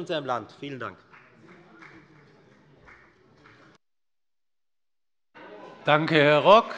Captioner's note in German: Beifall bei der FDP